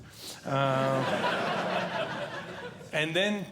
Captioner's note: audience Laughing